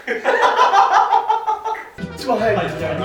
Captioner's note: laughter